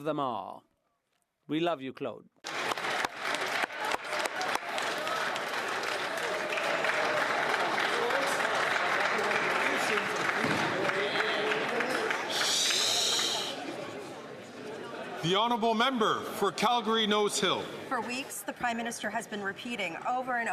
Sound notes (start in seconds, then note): 7.2 some Applause